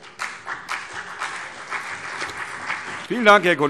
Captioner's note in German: Beifall CDU und vereinzelt BÜNDNIS 90/DIE GRÜNEN